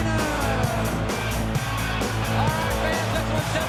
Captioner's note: audience cheers; upbeat music continues